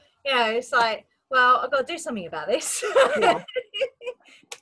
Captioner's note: laughs